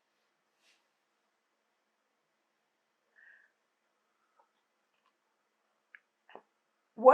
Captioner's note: pauses 6 seconds